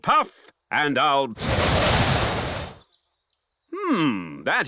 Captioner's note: blows